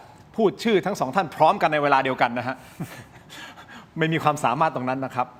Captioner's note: laughs